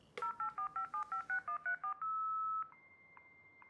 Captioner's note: internet dialing; high pitched tone humming